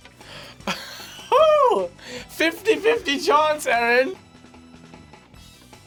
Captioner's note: laughs